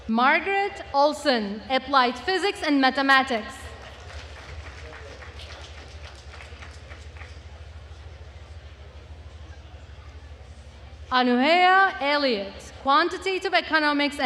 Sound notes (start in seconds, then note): 3.6 attendees cheering and applauding